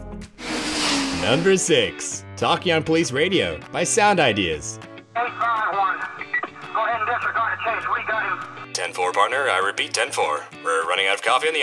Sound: SFX plays; SFX plays

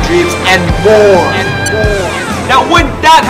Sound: echoes

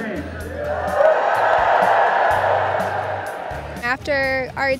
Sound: cheers and applause

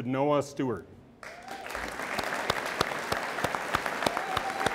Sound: audience applauds

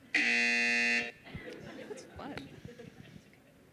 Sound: buzzer

